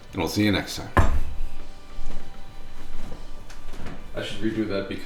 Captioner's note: loud thunk